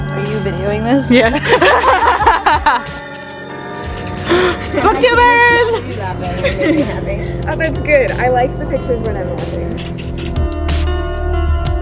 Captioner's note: laughter